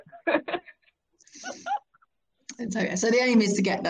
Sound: laughing

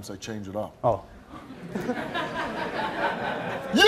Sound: laughing

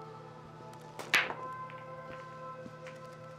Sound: pool balls strike

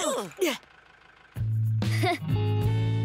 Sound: chuckles awkwardly

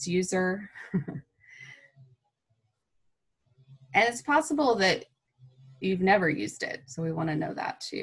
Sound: laughter

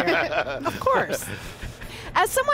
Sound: laughter

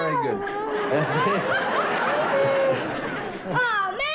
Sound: audience laughter throughout

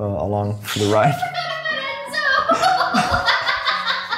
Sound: laughs

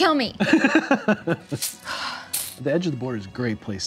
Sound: laughing

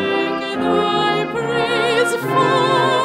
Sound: none

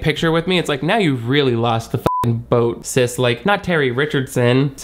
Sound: beep

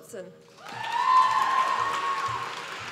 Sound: applause

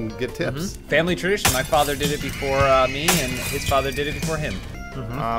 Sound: glass shattering, people screaming

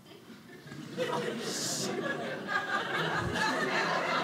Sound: audience laughing

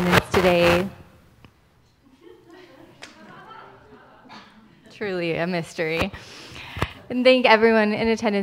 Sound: microphone buzzing

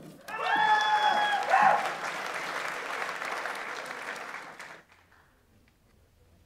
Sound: audience members cheer; audience applauds

